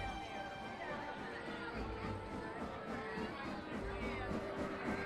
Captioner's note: crowd chatter